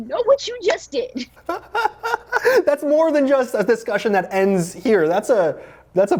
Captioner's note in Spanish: risas